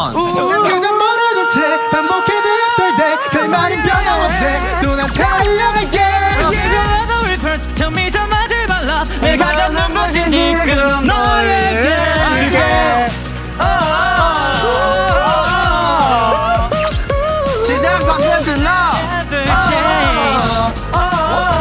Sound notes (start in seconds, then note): 13.8 woo; 14.9 singing hard